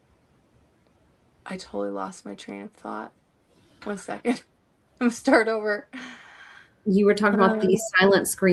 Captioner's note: sighs and gasps